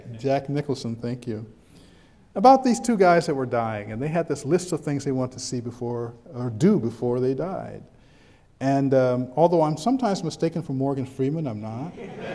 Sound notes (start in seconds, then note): 11.9 background chuckles